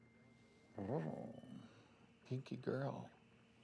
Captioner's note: growls